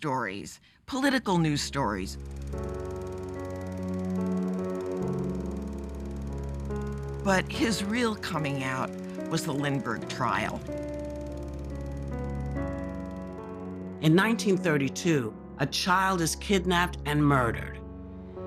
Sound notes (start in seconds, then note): 2.6 film reel clicking